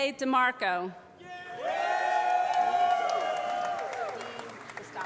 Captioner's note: applause